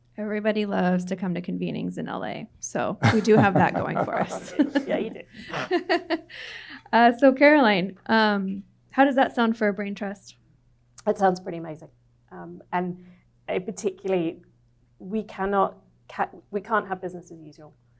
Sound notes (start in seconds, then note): 3.0 audience laughing